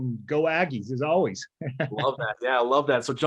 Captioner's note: laughter